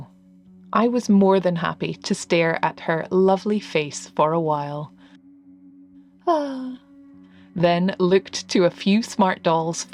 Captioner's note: sigh